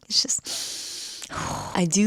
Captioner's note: deep breath